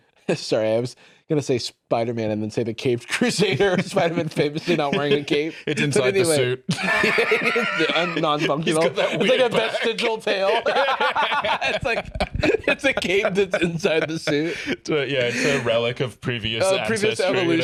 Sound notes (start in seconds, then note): 7.5 laughing; 11.6 both laugh